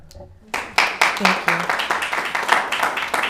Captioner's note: crowd applauding